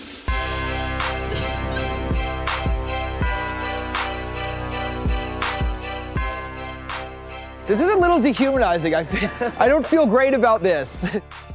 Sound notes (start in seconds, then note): 9.0 chuckles